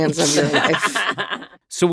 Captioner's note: laughing